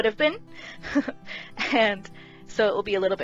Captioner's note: laughing over unintentional wood/would pun